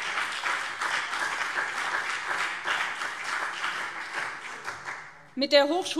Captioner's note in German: Beifall BÜNDNIS 90/DIE GRÜNEN und CDU